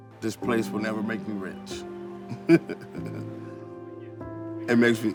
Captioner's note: chuckles